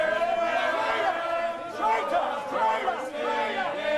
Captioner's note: crowd chanting